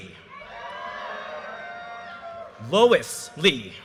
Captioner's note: audience cheers and applause